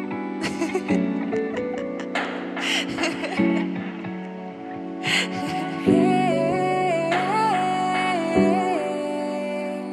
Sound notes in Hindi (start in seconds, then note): 0.2 खिलखिलाकर हँसती है; 5.8 गुनगुनाती है